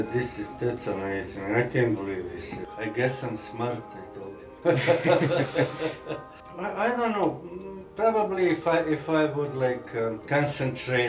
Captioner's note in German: Lacht